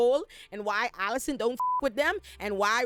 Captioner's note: beep